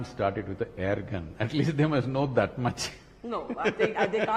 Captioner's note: laughs